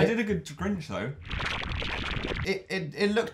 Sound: bubbly sound effect

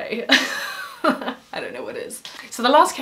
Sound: chuckle

